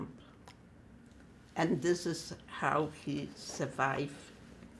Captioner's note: wiping nose